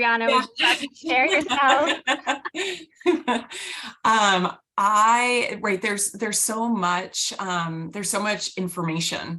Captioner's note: laughter